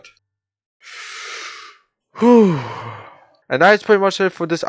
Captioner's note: exhale